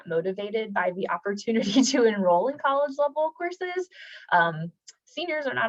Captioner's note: laughter